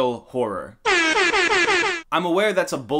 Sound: airhorns Blaring

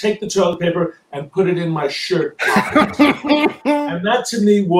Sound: laughs

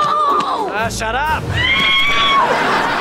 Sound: screaming

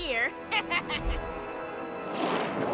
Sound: snickers

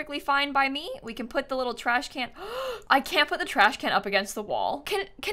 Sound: gasps

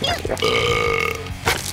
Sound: burps

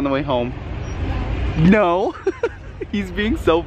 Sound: laughs

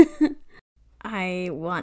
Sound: laughs

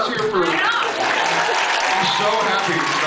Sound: applauds

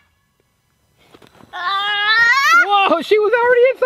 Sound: grunting

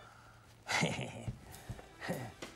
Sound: chuckles

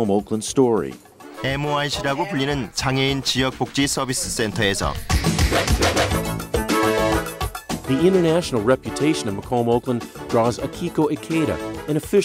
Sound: speaks Korean

